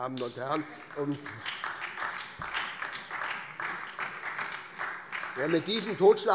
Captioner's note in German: Beifall SPD und vereinzelt DIE LINKE